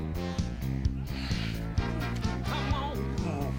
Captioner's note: exhales; grunts